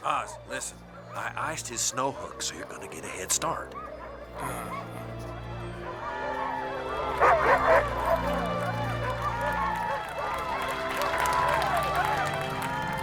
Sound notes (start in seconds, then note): 5.3 crowd cheering; 7.0 dogs barking